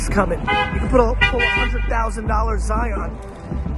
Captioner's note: car honking